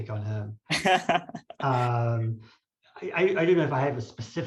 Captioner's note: laughs